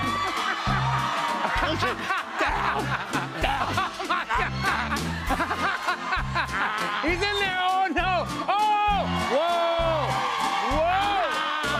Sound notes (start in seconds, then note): 0.0 laughter